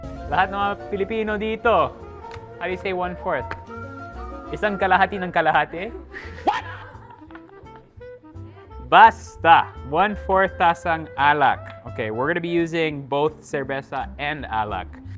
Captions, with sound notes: All the Filipinos here, how do you say one-fourth? "Isang kalahati ng kalahati"? (chuckles) Whatever. One-fourth cup of liquor. Okay. We're going to be using both beer and liquor.